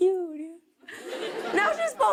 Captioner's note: laughter